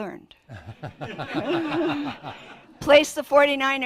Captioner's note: laughter